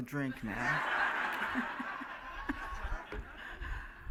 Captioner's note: laughing